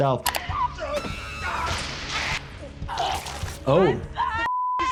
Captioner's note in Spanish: activista y chimpancé gritando